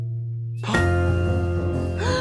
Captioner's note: family gasping